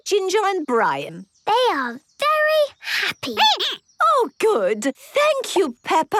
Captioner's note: squeaking